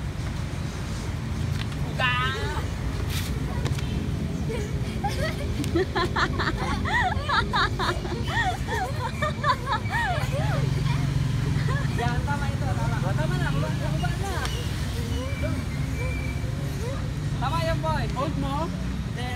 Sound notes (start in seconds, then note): 11.7 hahahaha